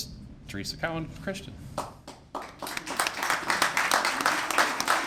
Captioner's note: applause